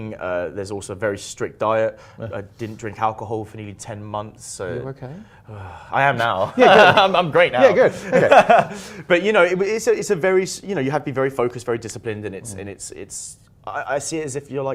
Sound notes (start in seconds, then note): 5.2 sighs; 7.6 laughter